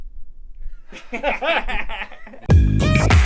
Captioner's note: laughs